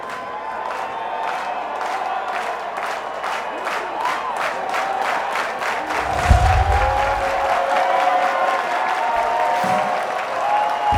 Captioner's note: applause